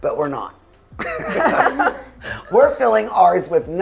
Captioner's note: laughs